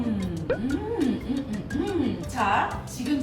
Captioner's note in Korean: 음~x3